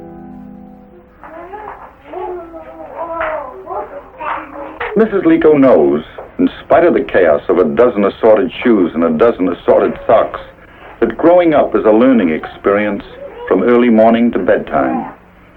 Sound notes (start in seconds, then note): 2.0 children talking to one another